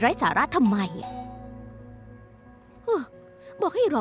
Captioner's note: doorbell ringing